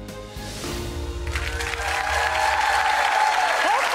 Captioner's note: audience applause